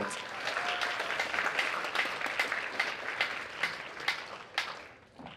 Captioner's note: applause